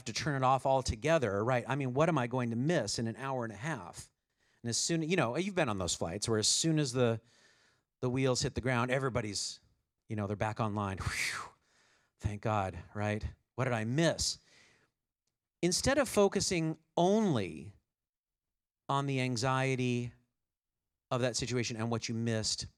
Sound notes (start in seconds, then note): 11.3 exhales